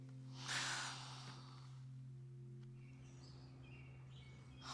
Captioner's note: Cassie sighs; birds chirping